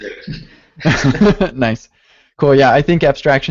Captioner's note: laughs